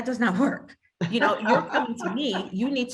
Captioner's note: laughs